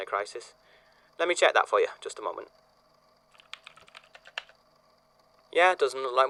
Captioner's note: keyboard clacking